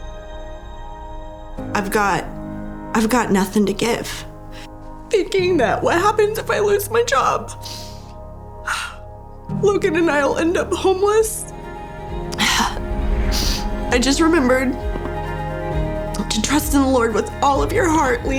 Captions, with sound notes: I've got nothing to give, thinking that "What happens if I lose my job? (sniffles) Logan and I'll end up homeless." (sighs) (sniffs) I just remembered to trust in the Lord with all of your heart,